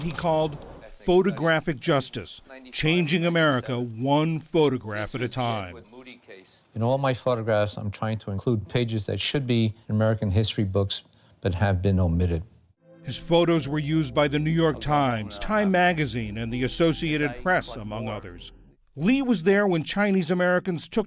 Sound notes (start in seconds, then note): 13.3 voice-over